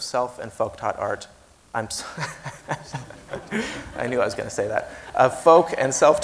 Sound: laughs

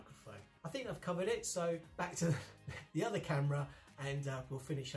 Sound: chuckles

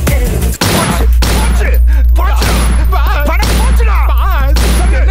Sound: gunshot

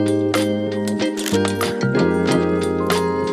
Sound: camera shutter clicks

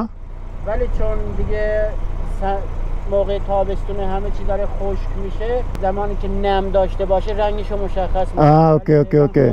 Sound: speaking in Persian

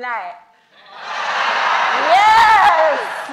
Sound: audience baas

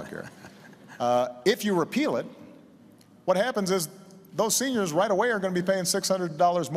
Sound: laughter

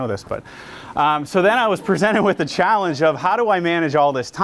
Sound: audience laughs

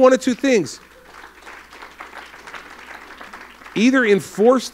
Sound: applause

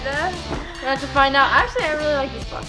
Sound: thuds

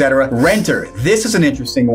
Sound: graphics swish

